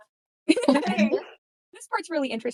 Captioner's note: laughter